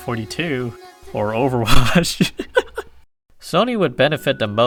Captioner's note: laughing